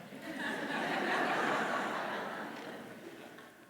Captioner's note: audience laughs